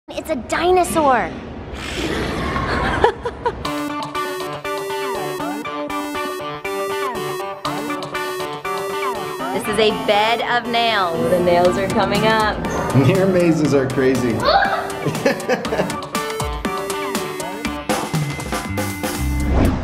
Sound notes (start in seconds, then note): 1.6 roaring; 2.5 laughing; 3.9 upbeat electronic music; 14.3 shouting; 14.6 laughing; 16.2 upbeat instrumental music